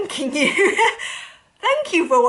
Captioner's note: laughs